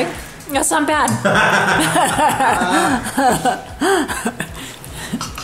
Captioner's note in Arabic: تضحك العائلة